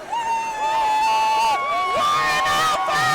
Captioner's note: cheering